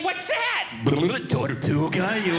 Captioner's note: bubbling Sounds